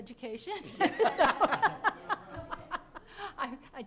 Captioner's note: laughter